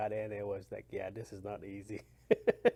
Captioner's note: laughs